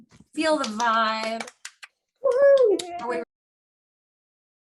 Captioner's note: applause